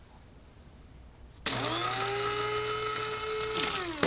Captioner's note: grinder whirring